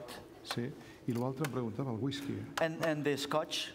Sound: speaking catalan

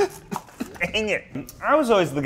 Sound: laughing

